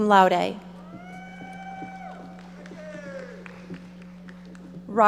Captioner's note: audience applauding